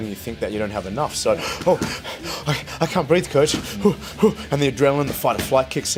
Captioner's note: heavy breathing